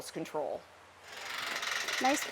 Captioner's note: gate creaking